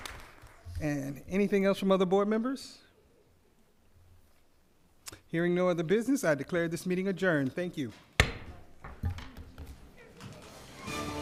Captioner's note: applause